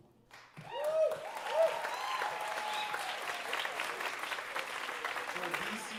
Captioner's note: audience cheering and applauding